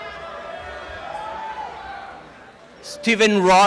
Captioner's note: applause and cheering